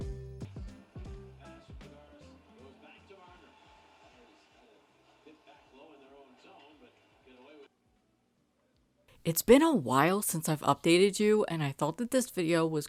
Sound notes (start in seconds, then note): 1.4 TV playing and calling a hockey game